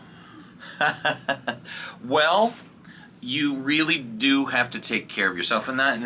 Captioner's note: chuckles